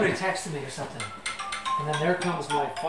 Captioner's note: phone ringing